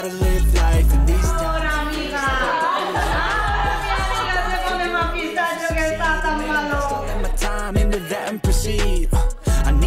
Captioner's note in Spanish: risas